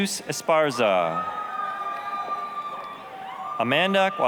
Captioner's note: applause, cheering